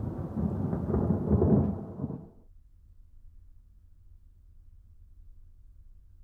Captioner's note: thunder